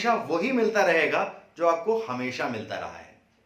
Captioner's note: Hindi